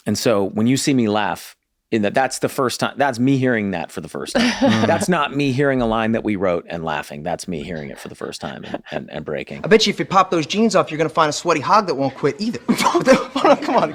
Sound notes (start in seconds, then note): 4.3 laughs; 12.6 Glenn laughs